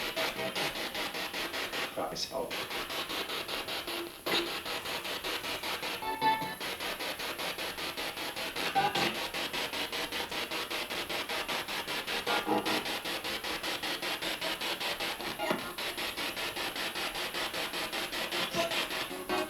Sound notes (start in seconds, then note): 4.9 sound of the Spirit Box in the background